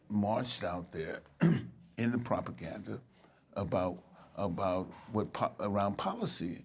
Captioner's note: clears throat